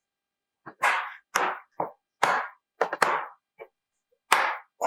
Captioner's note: hammer pounds